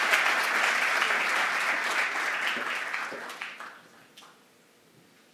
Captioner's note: applause